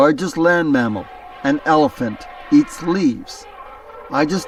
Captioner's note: elephant trumpeting